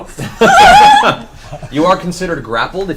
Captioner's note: all laugh